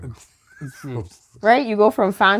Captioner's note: laughter